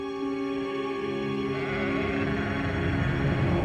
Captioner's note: sheep braying